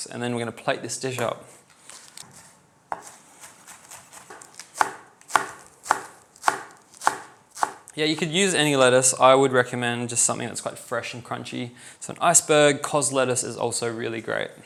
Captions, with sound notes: and then we're going to plate this dish up. (sizzling) (sizzling) Yeah, you could use any lettuce. I would recommend just something that's quite fresh and crunchy. So an iceberg-caused lettuce is also really great.